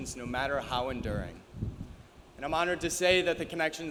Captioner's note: none